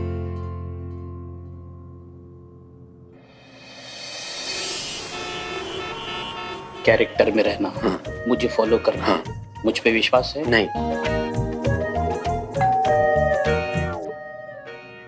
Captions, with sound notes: [car horn honking] Stay in the character. Just follow me. - Do you trust me? - No. [doorbell ringing]